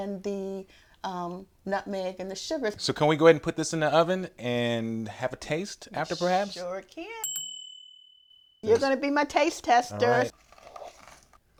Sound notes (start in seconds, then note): 7.2 bell dings